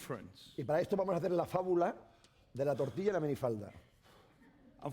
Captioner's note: speaking spanish